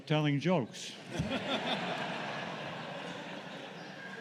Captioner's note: laughter